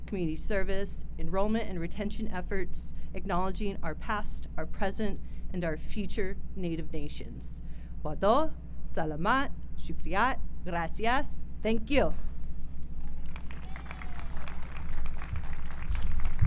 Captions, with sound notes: community service, enrollment and retention efforts, acknowledging our past, our present, and our future Native Nations. (speaks in foreign language) Thank you. (crowd applauds)